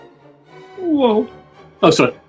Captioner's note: mimics watson